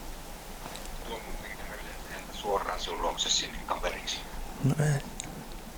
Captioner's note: radio message